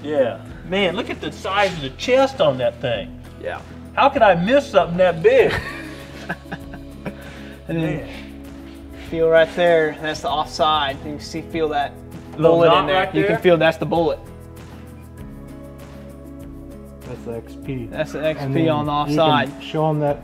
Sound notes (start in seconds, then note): 5.4 chuckling